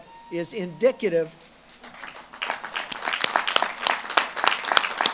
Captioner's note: audience claps and cheers